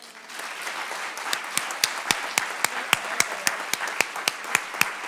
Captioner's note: audience applause